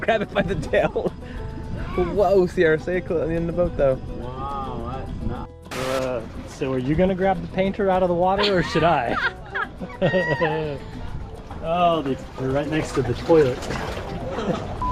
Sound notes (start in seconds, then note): 0.1 chuckles; 8.4 both chuckling; 13.6 beep